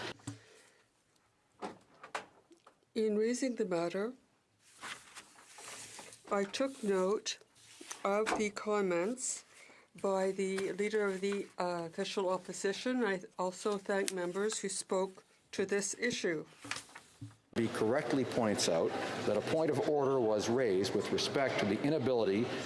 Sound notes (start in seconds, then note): 4.7 speaking French